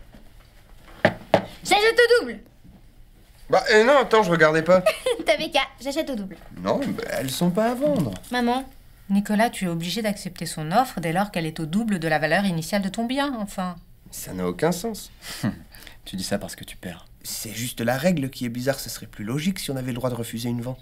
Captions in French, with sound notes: J'achète au double ! Bah euh nan attends, je regardais pas ! (Rires) T'avais qu'à ! J'achète au double. Nan bah elles sont pas à vendre ! Maman. Nicolas, tu es obligé d'accepter son offre, dès lors qu'elle est au double de la valeur initiale de ton bien, enfin ! Ça n'a aucun sens ! (Rires) Tu dis ça parce que tu perds. C'est juste la règle qui est bizarre. Ce serait plus logique si on avait le droit de refuser une vente !